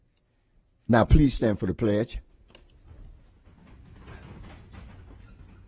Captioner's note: moment of silence